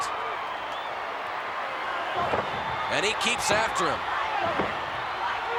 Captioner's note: applause